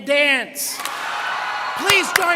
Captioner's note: students clap and cheer